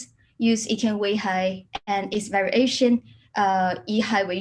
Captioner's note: speaks in a foreign language